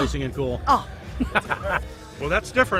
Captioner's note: laughs